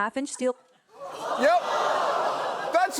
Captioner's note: audience groans